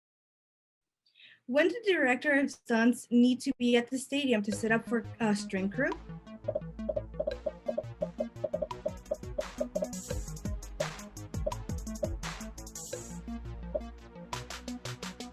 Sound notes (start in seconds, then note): 6.0 popping; 6.0 upbeat music